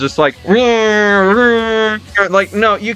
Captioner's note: imitates racing sounds